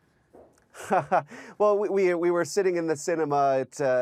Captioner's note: chuckling